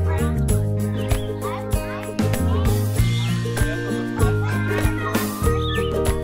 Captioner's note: children talking